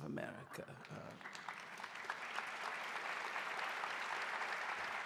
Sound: audience applauding

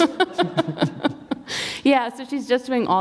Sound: laughter

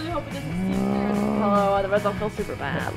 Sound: grunts

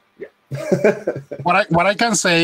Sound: laughs

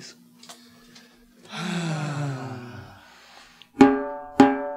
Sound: band Sighs

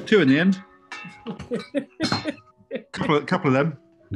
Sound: chuckling

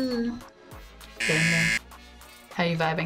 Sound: buzzer rings

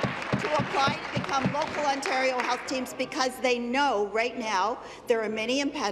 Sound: applause

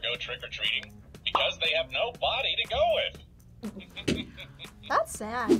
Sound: laughs

